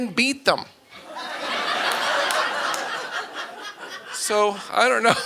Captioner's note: audience laughing